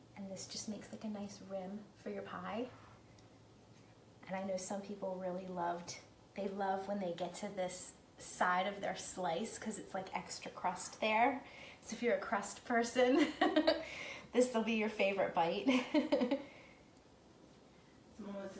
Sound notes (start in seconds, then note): 13.7 laughing; 17.4 laughing